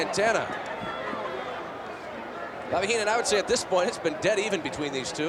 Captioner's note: applause